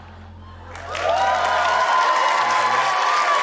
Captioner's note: cheering, applause